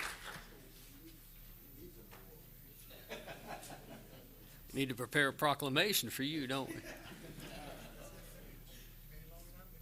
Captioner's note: applause